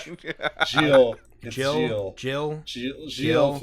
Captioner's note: laughter